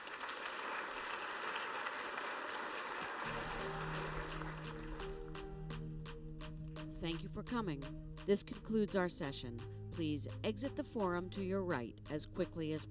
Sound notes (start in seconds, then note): 4.7 applause